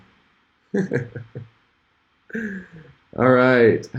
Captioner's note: laughs